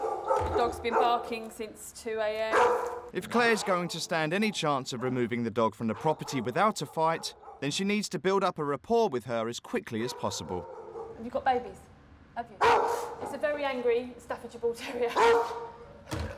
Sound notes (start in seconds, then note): 12.6 dog barking